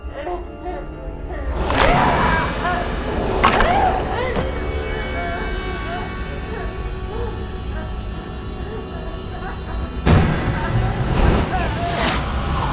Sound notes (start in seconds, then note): 0.7 sobbing; 2.7 yells; 3.1 cracking; 4.3 gasps; 7.5 slow, dramatic music; 7.5 sobbing